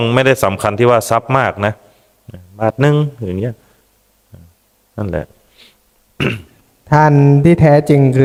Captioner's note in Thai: เสียงไอ